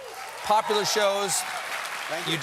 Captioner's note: applause